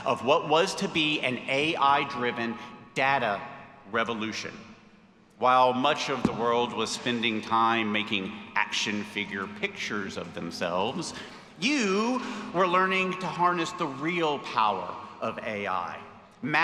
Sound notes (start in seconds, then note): none